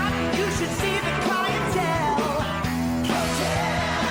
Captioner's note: tiger roars